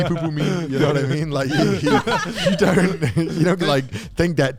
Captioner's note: men laugh